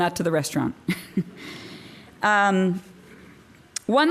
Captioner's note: chuckling